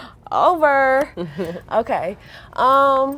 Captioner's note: laughing